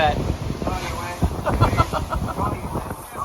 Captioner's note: laughter